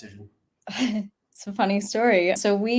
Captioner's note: chuckles